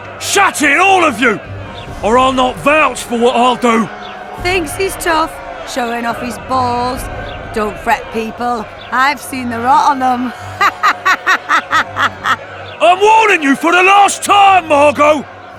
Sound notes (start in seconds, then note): 12.0 cackles